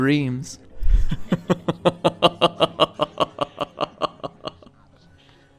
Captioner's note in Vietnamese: MatPat cười man rợ